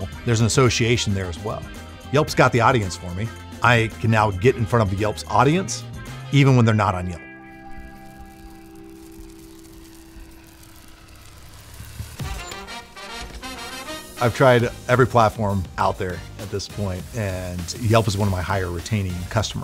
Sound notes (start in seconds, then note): 10.0 birds chirping; 12.0 bright upbeat music